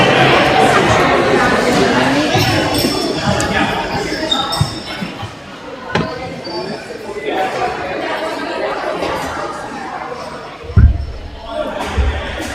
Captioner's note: crowd chattering